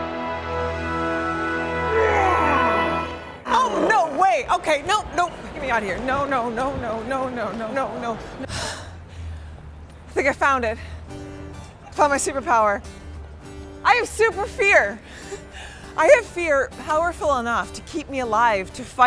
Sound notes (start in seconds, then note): 3.5 growls; 8.5 panting